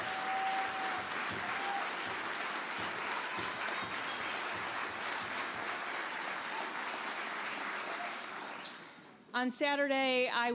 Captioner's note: applause